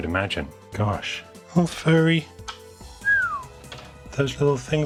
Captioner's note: whistles